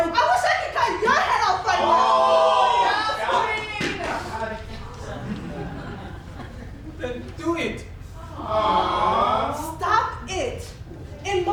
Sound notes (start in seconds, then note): 2.2 the Players yells; 8.3 groans